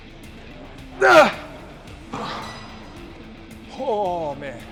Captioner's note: Ethan grunts